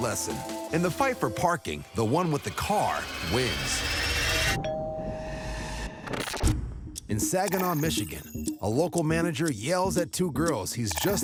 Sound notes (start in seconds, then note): 4.5 doorbell rings